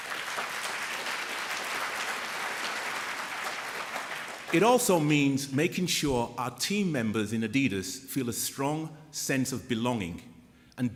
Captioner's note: applause